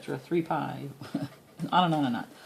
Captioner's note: laughs